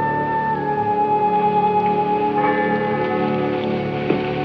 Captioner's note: tolling Continues